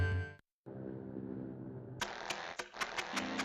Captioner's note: plane engine humming; engine sputtering